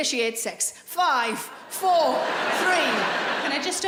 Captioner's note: laughing